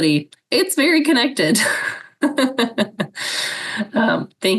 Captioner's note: laughs